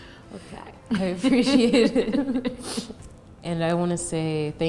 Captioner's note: laughs